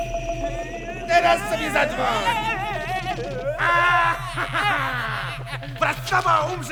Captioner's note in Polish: złowieszczy śmiech